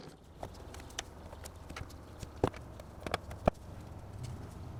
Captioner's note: wood clatters